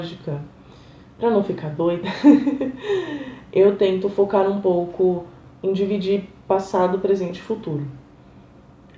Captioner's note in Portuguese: risadas